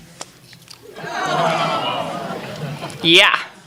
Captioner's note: gasping, laughing